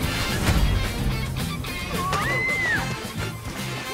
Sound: screaming

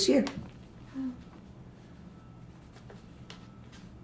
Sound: pauses 6 seconds

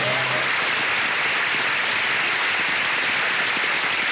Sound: audience laughs; orchestra riffs; audience applauds

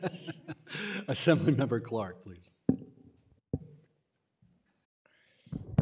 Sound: laughter

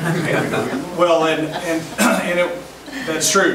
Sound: group laughs

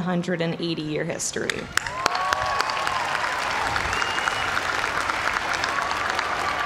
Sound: cheers and applause

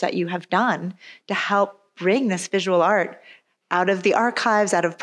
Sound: none

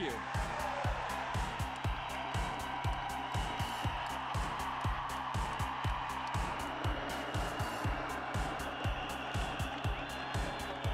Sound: cheering

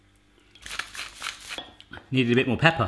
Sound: soft grinding

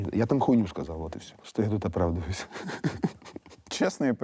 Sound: laughs

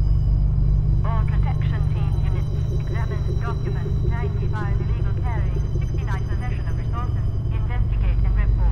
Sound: radio

